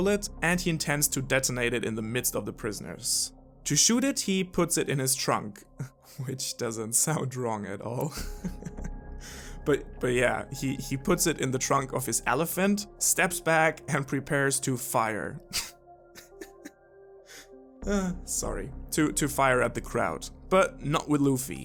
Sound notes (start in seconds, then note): 8.2 laugh; 16.1 laugh